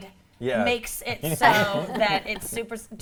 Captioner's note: everyone laughing